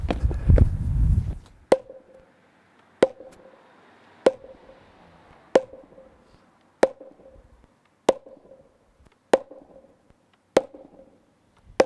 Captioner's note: pounding